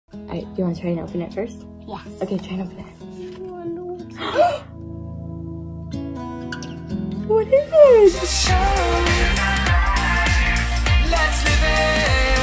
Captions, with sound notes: - Alright, you wanna try and open it first? - Yes. - Okay, try and open it. (loud gasps) - What is it? (upbeat music)